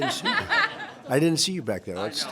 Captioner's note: laughter